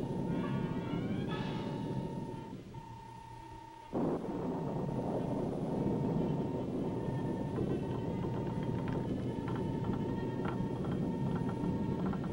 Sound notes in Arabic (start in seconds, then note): 3.0 صافرة إلكترونية; 9.4 صرير الطاولة